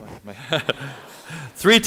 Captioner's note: laughter